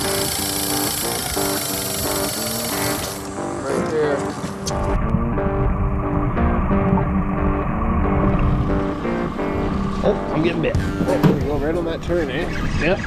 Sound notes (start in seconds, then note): 6.3 water flowing